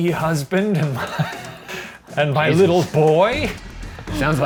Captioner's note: wheezing laughter